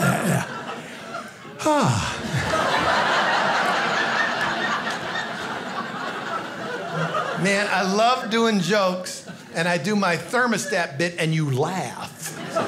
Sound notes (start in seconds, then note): 0.0 sighs; 1.8 audience laughing